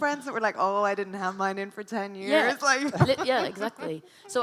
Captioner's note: laughs